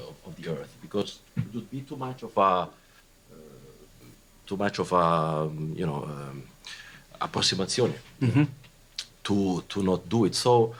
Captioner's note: non-english